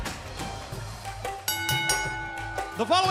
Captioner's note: bell ringing